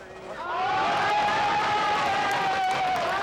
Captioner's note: cheering